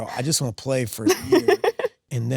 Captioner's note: Sydney laughs